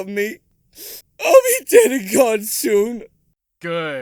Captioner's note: sniff